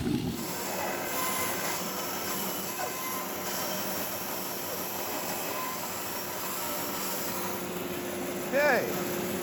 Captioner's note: bandsaw sawing